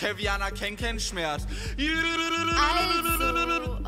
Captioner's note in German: Indianergeheul